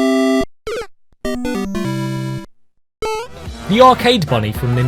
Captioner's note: sound effects